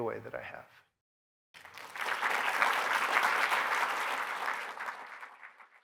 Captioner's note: applause